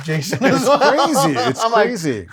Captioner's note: laughs